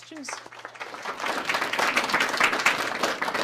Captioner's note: applause